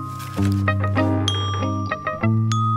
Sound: creaking

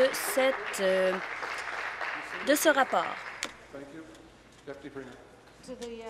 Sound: applause

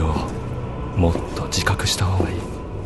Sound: footsteps

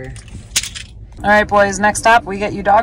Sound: keys clicking

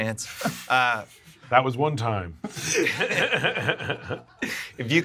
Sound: laughs

